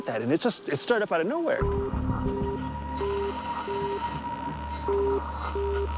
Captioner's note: tone sounding